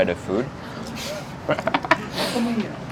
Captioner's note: laughs